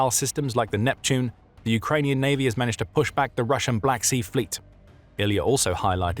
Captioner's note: Ukrainian